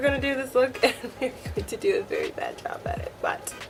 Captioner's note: laughs